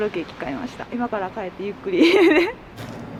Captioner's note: laughter